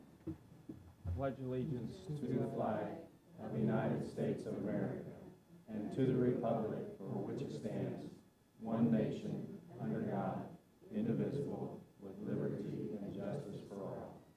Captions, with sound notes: I pledge allegiance-- - [Crowd] To the Flag of the United States of America and to the Republic for which it stands, one Nation under God, indivisible, with liberty and justice for all.